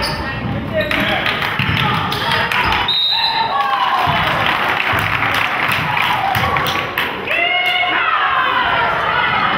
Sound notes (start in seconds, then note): 2.8 whistle blows; 3.5 crowd claps